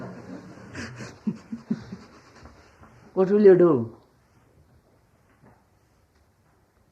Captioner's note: laughs